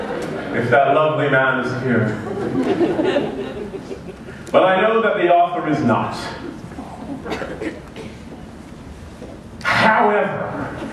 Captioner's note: laughter